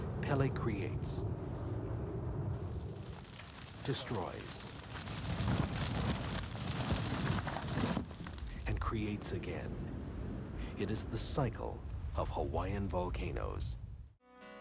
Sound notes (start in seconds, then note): 0.0 volcano roars; 4.7 wood cracks; 14.4 lighthearted folk music